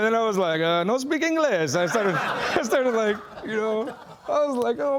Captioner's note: laughing